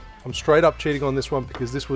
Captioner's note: none